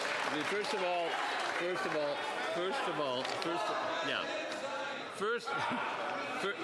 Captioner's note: some Applause